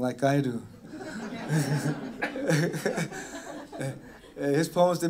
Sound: laughter

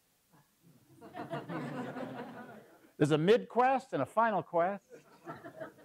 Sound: laugh

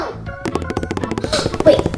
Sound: tapping

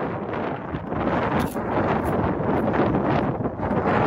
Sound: crunching

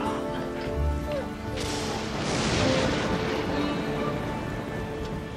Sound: dancer whimpers

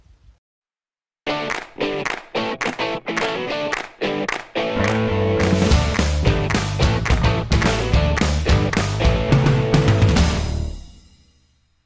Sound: claps

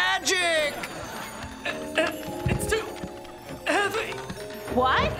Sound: Brad grunting

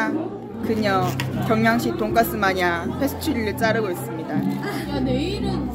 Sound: laught

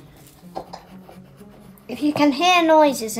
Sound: pen scratching

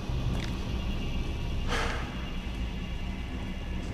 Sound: sighs

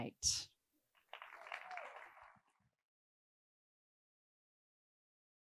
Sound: attendees applauding

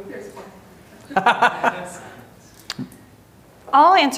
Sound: laughing

